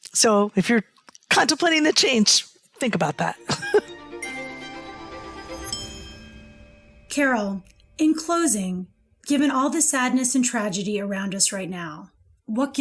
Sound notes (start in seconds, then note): 3.3 bright upbeat music; 3.4 chuckles